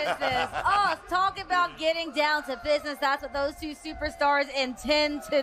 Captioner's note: laughter